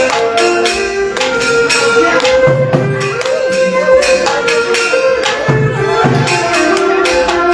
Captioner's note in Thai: ปรบมือ